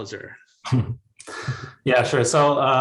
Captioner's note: both chuckling